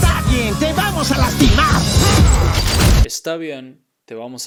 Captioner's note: upbeat music; speaking in Spanish